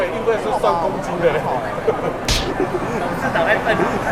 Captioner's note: slap!!